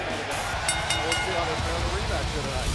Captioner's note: bell ringing